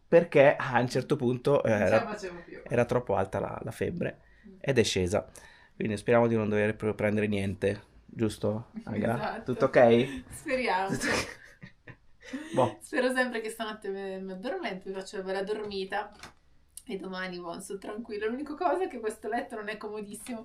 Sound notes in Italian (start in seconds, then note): 10.8 risate